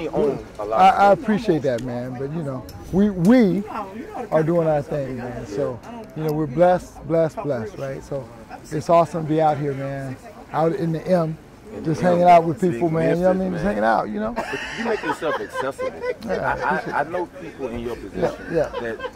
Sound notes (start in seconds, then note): 14.2 background laughs